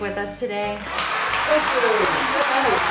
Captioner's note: clapping and cheering